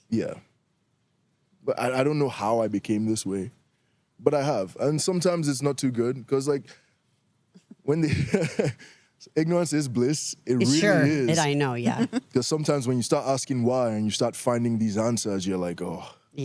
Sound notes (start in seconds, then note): 8.0 laughs